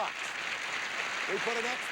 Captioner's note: audience applauding